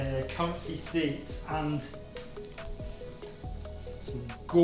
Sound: sniffs

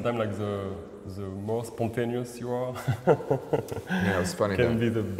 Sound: laughs

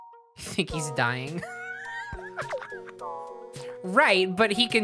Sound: laughing

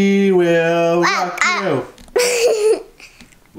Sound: babbling; laughing

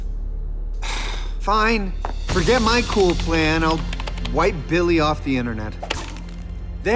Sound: sighs

